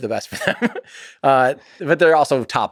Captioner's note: Tim laughs